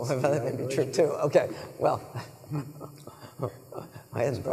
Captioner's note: laughing; laughing